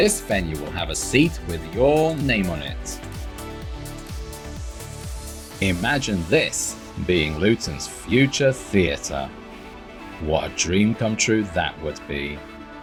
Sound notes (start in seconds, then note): none